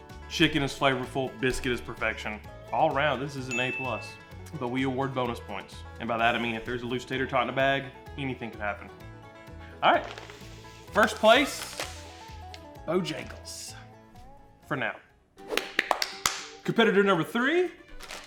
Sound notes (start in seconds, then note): 15.4 bright banjo music; 15.5 clapping rhythmically